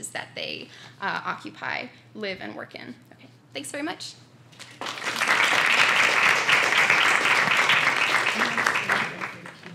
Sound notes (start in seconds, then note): 4.6 applause